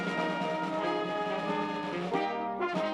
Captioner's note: none